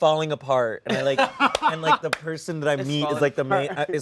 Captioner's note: laughter